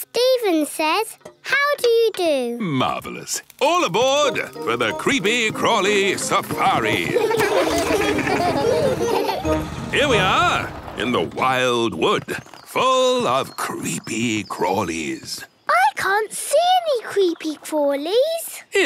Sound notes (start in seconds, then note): 6.7 laughing